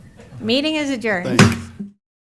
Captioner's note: gavel pounding